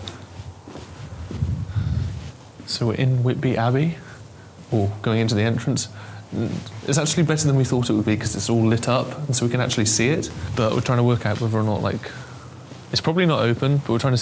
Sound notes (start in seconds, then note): none